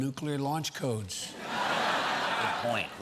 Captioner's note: laughter